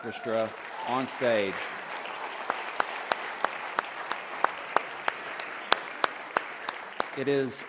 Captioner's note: applause